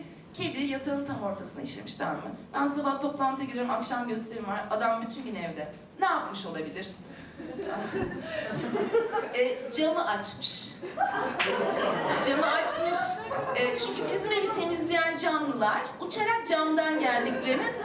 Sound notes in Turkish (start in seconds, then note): 7.4 Gülüşmeler; 10.8 Gülüşmeler